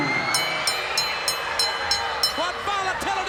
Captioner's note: bell rings